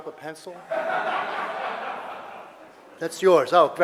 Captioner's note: audience laughter